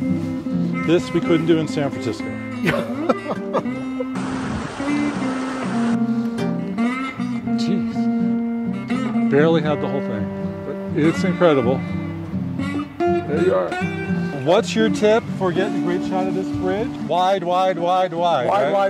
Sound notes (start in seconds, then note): 2.6 laughter